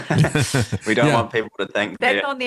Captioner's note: both Laughing